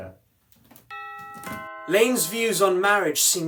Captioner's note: doorbell rings